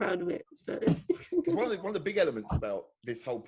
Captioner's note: giggling